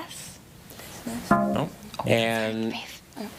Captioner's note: buzzer buzzes